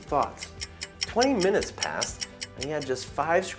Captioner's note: clock ticking